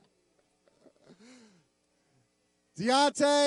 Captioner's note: laughing